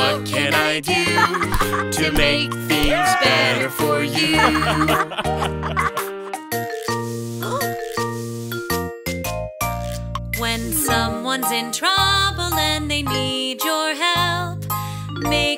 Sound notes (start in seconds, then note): 0.0 father laughing; 4.1 father and baby laughing; 6.7 melodic music; 8.0 grand mom exclaims